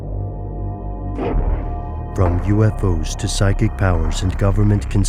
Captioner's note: voiceover